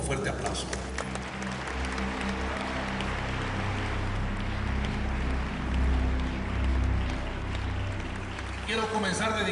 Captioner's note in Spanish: Aplausos